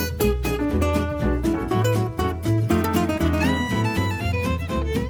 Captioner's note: indistinct conversations